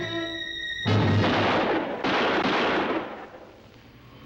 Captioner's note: gun firing